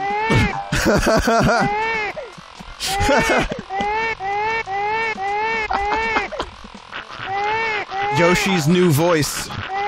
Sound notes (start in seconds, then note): 0.6 laughs; 2.8 keeps laughing